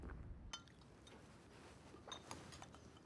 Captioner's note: spoons clink softly